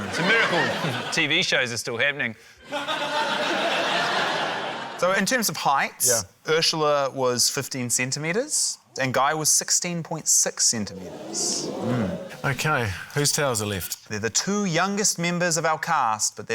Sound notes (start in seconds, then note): 2.6 laughter; 10.8 audience exclaims